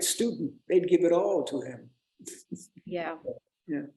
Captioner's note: chuckles